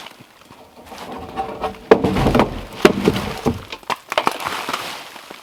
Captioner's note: logs crunching and thudding